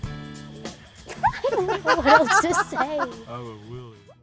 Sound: laughing

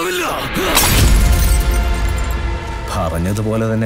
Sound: bottle Sound

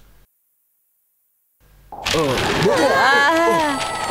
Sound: groans

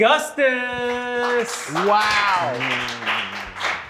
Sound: applause

